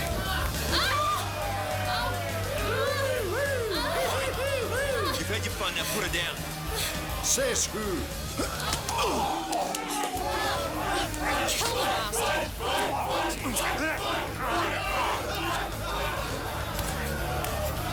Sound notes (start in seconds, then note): 0.4 woman yells; 2.6 man cheering; 8.3 grunting; 12.9 crowd; 15.1 men groaning